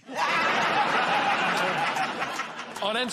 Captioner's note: laughter